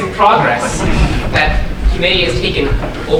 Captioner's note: audience laughing